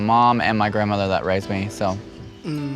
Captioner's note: sympathetic tone